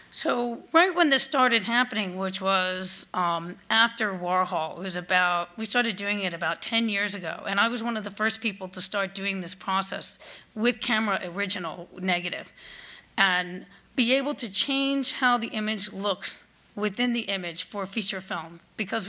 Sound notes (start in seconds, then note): none